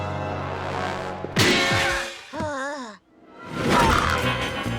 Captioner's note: metal crash; Milo groaning in pain; suspenseful music; logo whooshes